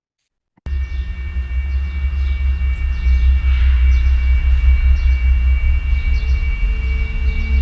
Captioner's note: birds chirping; droning sound; bees buzzing; bird squawking